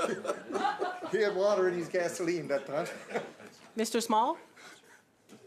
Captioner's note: laughter